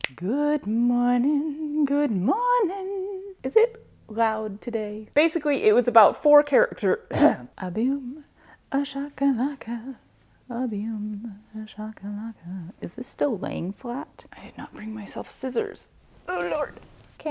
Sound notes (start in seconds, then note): 0.1 singing; 7.1 cough